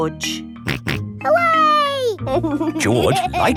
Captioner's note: snorts and laughs